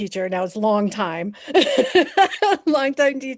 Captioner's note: laughing